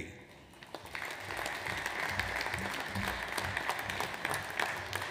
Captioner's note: audience applauds